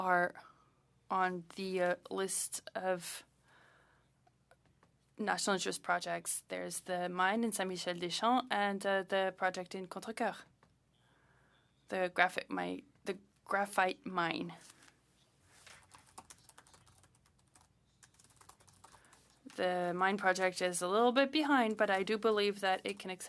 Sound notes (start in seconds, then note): 12.5 speaking French